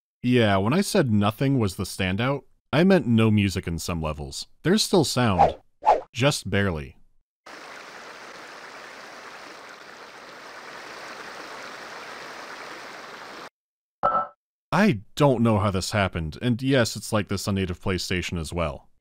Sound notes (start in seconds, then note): 5.4 swoosh-swoosh; 7.4 quiet rushing of water